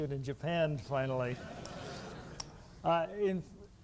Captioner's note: laughter